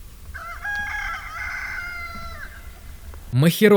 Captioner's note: rooster